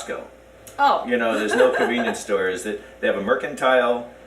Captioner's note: laughs